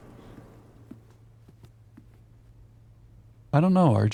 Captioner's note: silence